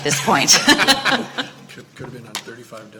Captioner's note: laughing